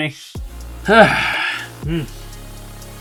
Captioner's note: sighs